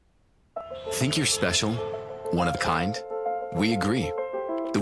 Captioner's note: voice-over